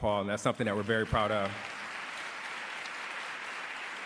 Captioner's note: applause